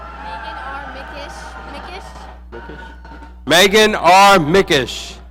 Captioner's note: audience cheering